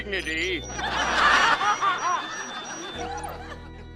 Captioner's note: laughing